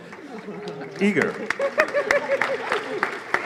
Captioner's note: laughter; applause